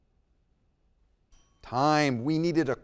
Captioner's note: timer chimes